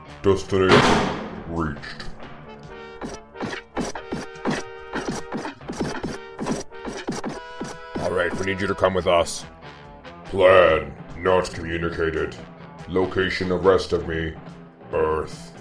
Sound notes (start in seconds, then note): 3.0 footsteps